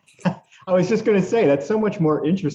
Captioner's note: laughter